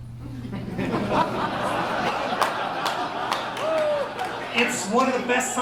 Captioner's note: laughter